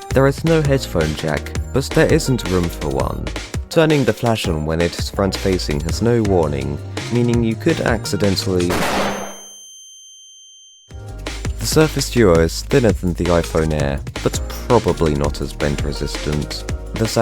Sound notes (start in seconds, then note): 8.7 flashbang sound effect